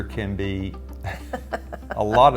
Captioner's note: laughs